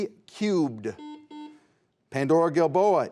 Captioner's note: buzzer buzzes